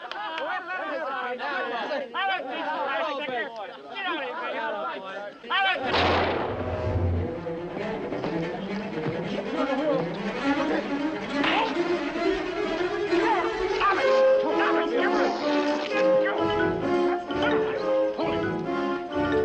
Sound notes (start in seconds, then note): 0.1 prisoners clamoring; 5.8 fires gun